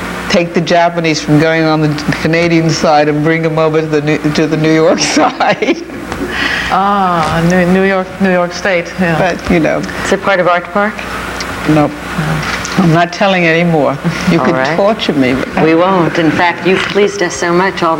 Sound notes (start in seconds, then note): 4.8 chuckles